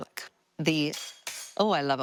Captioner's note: knife clanging